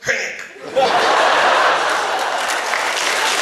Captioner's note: audience laughs; applause